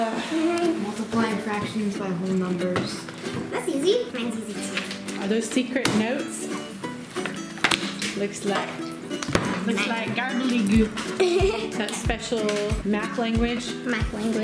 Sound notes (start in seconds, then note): 7.1 thump; 10.9 laughing